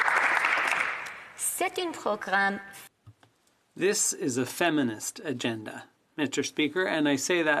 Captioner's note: applause